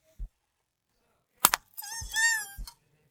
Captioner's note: whimpers